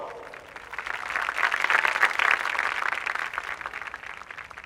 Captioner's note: audience applauding